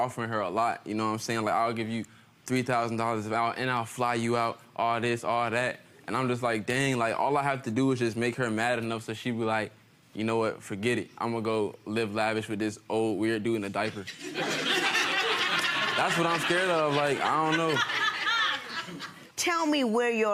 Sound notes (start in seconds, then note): 14.1 audience laughing